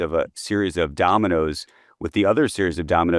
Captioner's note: none